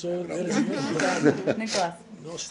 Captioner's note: laughter